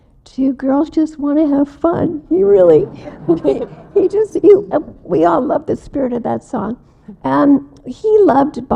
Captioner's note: audience laughs again